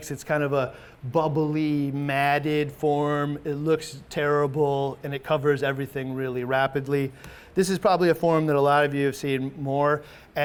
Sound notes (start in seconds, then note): none